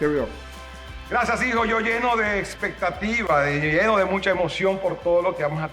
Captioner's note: speaks foreign language